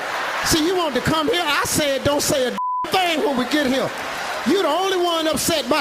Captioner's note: beeping